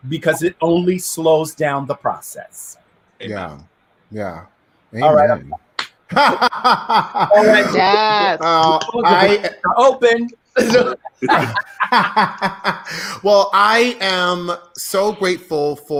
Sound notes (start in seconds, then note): 5.7 hands clapping loudly; 6.1 laughing loudly